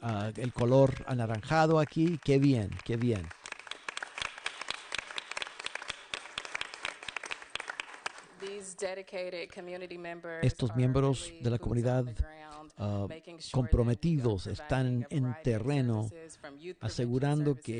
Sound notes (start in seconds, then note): 5.1 applause